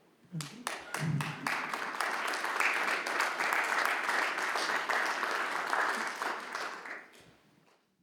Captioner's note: audience applauding